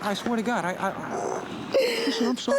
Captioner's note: sobbing